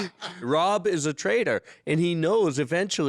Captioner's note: laughing